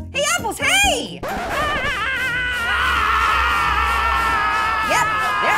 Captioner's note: all screaming